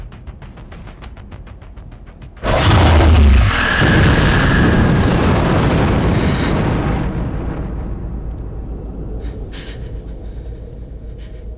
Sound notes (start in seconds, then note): 2.4 roaring